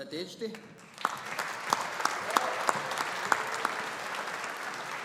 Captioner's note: audience applauding